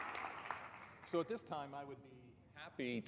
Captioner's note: applause